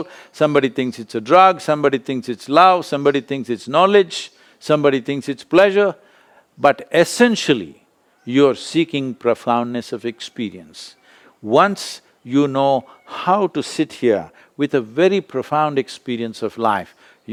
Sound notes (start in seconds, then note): none